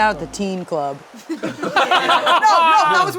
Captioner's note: everyone laughing